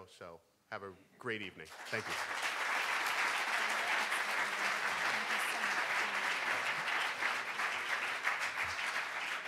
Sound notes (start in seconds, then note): 2.7 clapping; 2.7 crowd